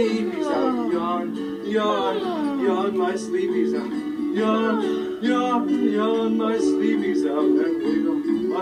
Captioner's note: yawns; yawns